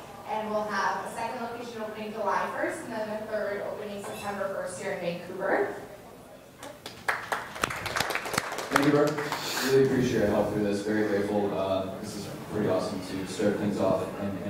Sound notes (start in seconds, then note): 6.7 audience applauds